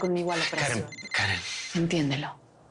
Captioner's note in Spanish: Suena el celular